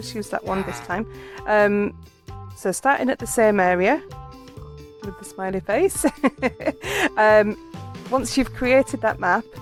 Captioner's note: laughing